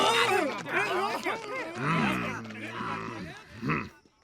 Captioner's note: grumbling